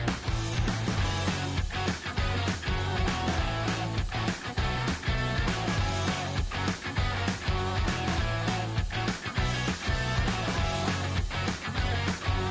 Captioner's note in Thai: ปรบมือ